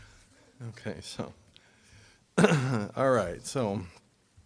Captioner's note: clearing throat